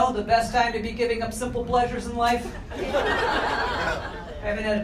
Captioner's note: crowd laughter